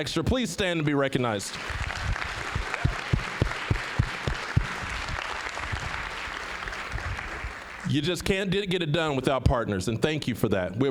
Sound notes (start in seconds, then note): 1.5 applause